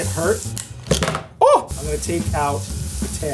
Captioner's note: yells